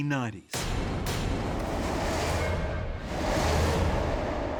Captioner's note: dramatic whooshing